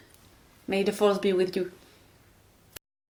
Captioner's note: snaps